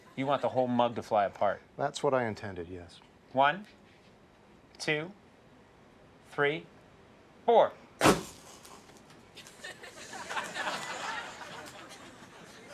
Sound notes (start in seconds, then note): 8.0 an explosion; 9.4 audience laughs